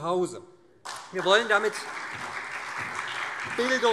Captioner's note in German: Beifall SPD